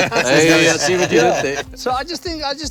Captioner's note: laughter